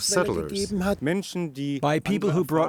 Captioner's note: speaking German